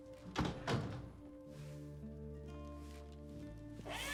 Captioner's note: door closes